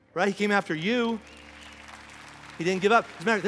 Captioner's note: congregation applauding; congregation cheering